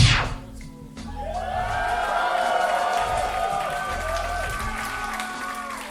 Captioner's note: audience applauding